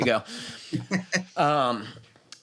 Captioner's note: laughs